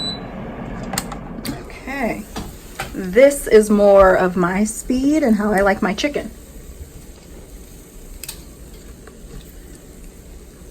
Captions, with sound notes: Okay, this is more of my speed and how I like my chicken. (chicken sizzling)